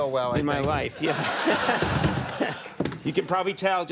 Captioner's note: audience laughs